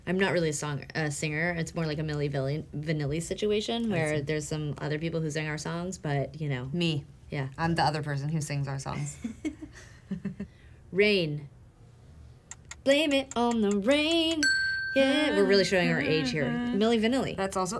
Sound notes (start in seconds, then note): 9.3 laughing; 14.4 bell dinging